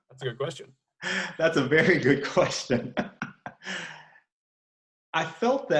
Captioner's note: chuckles